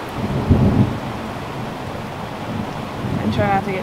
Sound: rain pouring

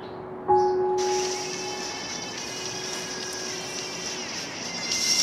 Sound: phone ringing

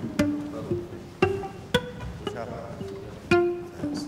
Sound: άνθρωποι κουβεντιάζουν

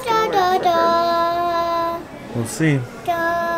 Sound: vocalizing

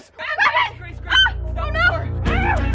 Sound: yelling

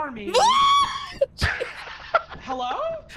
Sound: screams; laughs

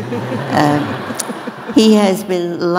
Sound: audience laughing

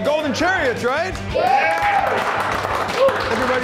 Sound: cheering

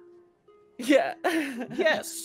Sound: laughs

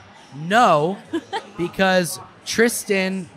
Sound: laughing

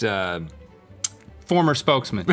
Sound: clicks tongue

